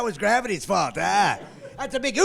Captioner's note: laughing